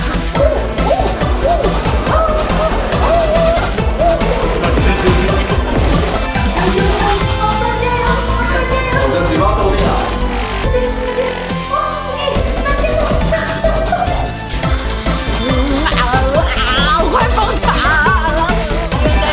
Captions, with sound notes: Ooooooooooooo Ahhhhhhhhhh Ooooooooooo *laughters* Oppa you can do it! You can do it! My mouth is cramping already Faster, faster! Wow, you hit 3000 points! Go higher, go higher! I'm about to go crazy